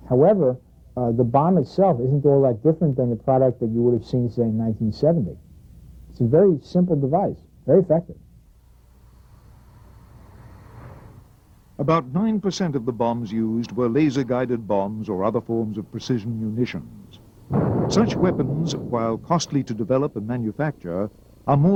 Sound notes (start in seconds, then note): 17.4 missile exploding